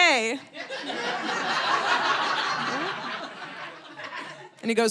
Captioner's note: audience laughing